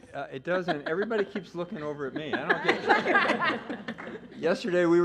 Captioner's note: laughter